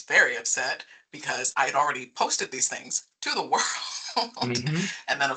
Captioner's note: laughing